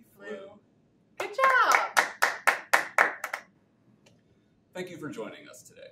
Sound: hands clapping

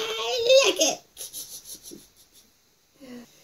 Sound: snickers

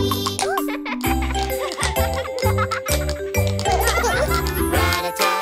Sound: kids laughing and tapping

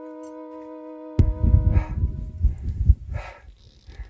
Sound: heavy breathing

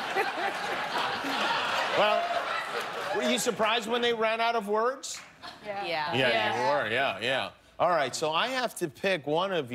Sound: laughter

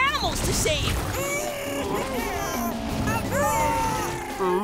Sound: chattering

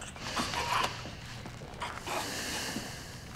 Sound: choking; she breathes deeply

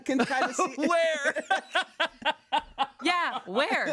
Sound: laughs

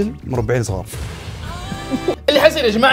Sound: sad, weak non-subscriber cries

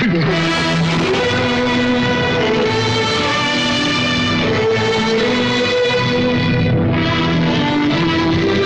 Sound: crying; wind gusting; windows rumbling

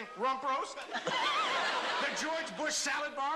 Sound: laughter

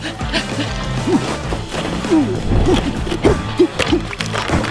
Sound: panting; Bigfoot grunts

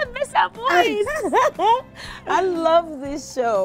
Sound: LaChanze laughs

